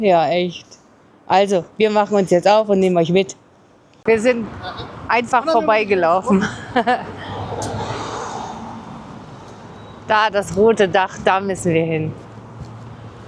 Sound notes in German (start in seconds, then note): 6.3 gelächter